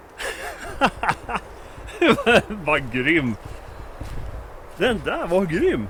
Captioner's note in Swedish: Skratt